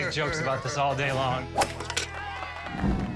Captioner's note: golf club whizzes, crowd cheers